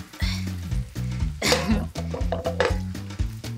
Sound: grunting; jazzy music

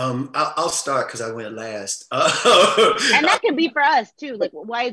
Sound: laughs

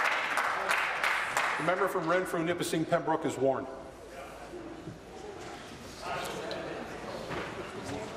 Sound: applause

